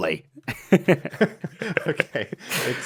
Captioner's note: BOTH laugh